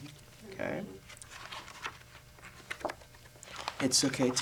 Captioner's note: sound of pages turning